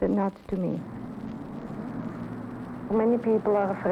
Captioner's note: highway traffic